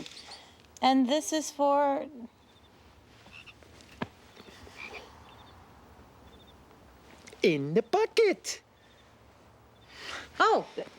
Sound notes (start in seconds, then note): 3.3 frog croaking